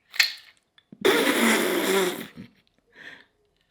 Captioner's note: laughs